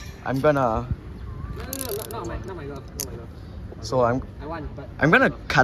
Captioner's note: pen knife noises